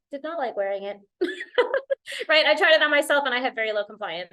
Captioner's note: laughter